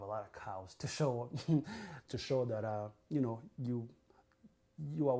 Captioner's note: laughs